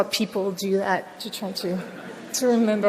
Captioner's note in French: rires